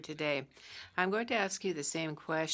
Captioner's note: speaking French